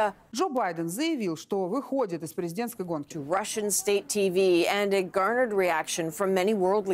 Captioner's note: speaking alternate language